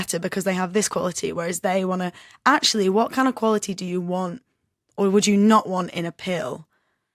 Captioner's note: none